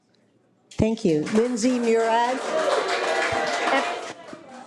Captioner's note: audience applauding